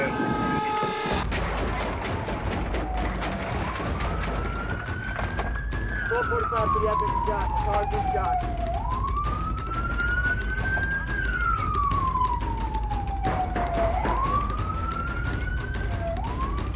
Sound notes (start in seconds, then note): 1.8 rapid gunfire; 4.7 sirens; 13.2 gunshots